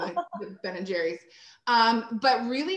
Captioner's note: chuckles